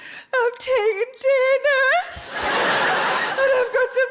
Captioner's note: audience laughing